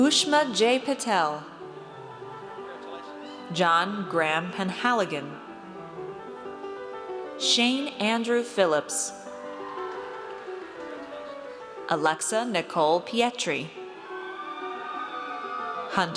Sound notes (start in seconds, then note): 9.4 audience cheers; 13.8 audience cheers